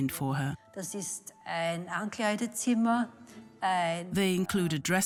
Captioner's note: speaks in foreign language